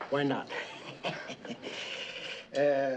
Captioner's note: chuckling